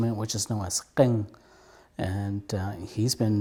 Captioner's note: speaks Hmong